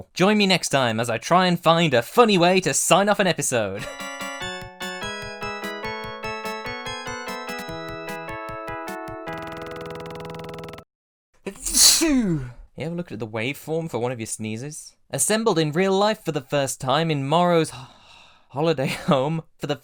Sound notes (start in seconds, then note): 4.0 outro music; 11.5 sneeze